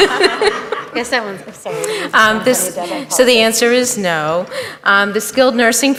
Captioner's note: laughter